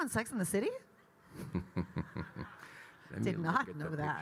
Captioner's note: Kyle laughing